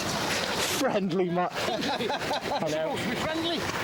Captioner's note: people laughing